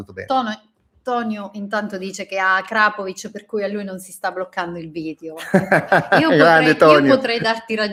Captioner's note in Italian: risate